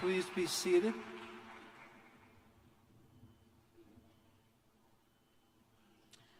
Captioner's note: cheers